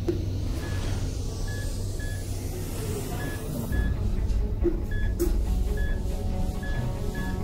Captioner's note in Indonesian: bunyi ritme jantung tidak normal